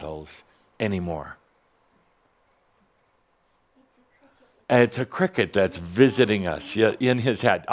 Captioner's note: someone’s cell phone rings with a cricket sound